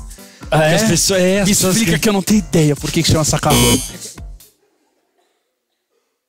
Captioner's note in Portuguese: campainha